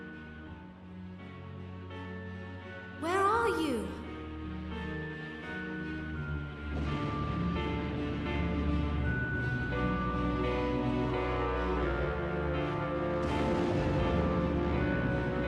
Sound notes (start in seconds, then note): 0.0 menacing music; 4.8 storm